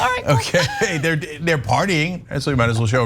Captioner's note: laugh